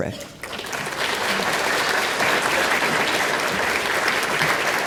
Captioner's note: applause